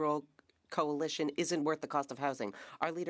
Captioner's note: speaking French